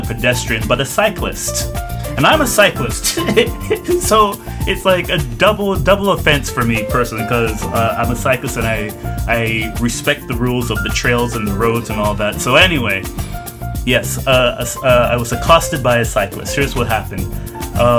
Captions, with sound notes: pedestrian, but a cyclist! And I'm a cyclist (laughs) so it's like a double, double offense for me personally because I'm cyclist and I respect the rules of the trails and the roads and all that. So anyway, yes, uh, I was accosted by a cyclist. Here's what happened.